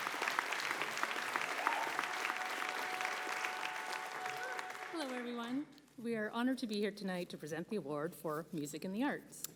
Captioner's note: applause